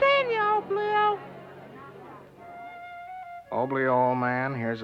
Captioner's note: crowd murmuring